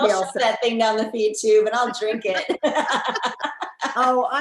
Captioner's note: all laughing